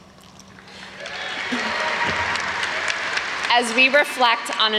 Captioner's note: audience applauds